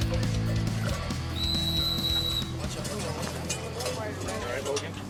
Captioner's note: whistle blowing